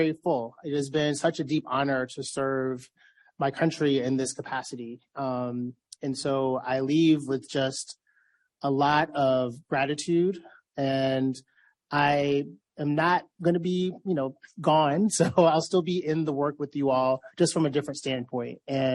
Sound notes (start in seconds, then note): 14.4 laughs